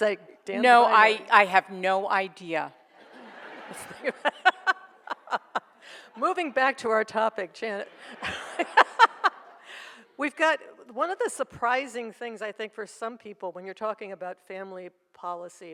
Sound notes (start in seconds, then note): 2.9 audience laughs; 3.0 laughs; 7.9 laughs